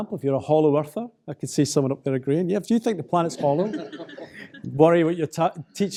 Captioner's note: audience laughs